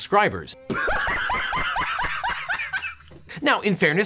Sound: man laughs

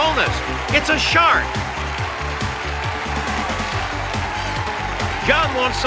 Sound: cheering

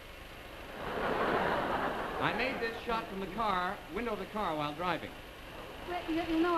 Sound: traffic noise

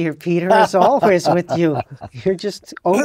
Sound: laugh

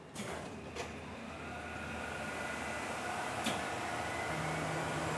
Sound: machine Running

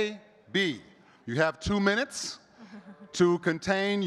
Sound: chuckles

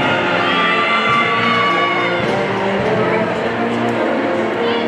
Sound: people cheering

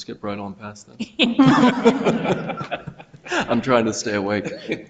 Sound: people laugh

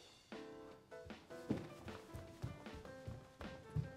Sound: running up the steps

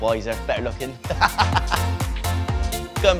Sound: laughs

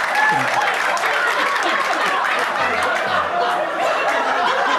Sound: audience applauding

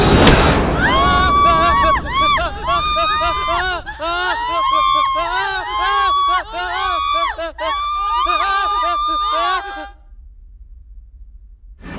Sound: screaming

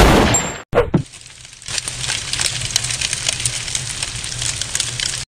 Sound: gunshots; fire crackling

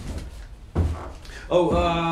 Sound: sighs

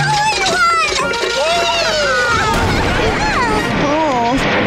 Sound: loud exploding

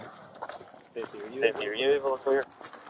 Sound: radio chatter

